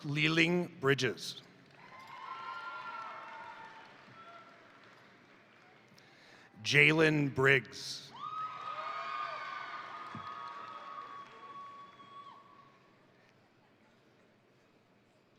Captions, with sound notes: Brooke Liling Bridges, (crowd cheering) (crowd applauding) Jaylen Briggs, (crowd cheering) (crowd applauding)